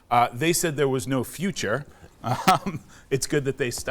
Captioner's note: chuckles